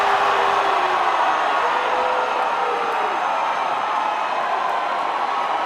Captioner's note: applause